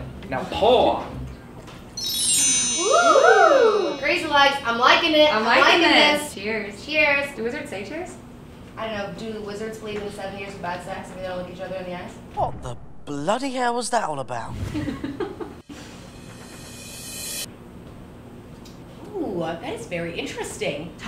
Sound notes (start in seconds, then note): 1.9 chimes; 14.8 laughs